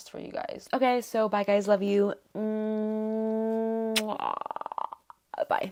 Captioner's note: muah